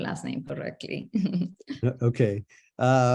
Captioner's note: laughing